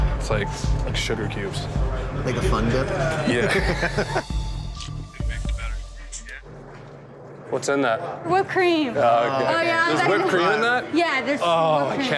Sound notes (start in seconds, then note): 3.4 laughter